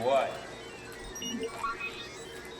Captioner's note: computer squeaks